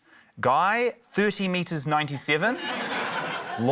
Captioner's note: laughter